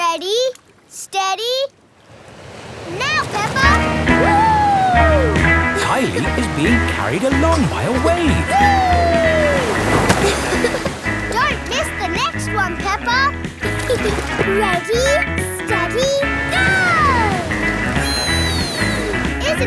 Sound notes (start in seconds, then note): 13.6 giggles